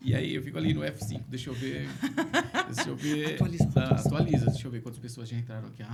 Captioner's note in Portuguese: risadas